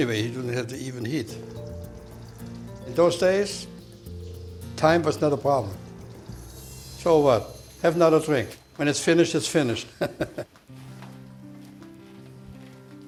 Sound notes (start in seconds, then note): 9.9 laughs